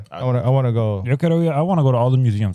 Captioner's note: speaking Spanish